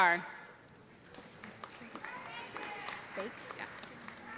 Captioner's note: applause